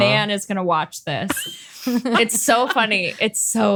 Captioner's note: laughs